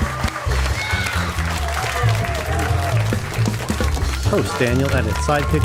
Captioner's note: audience Applause